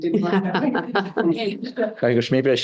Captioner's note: all laughing